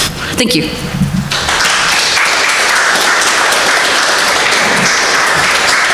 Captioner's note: audience applauding